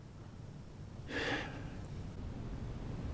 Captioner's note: sigh